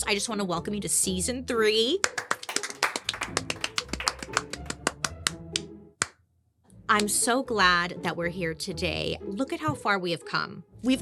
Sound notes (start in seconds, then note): 2.0 audience applauding; 2.0 upbeat playful music; 2.0 applauding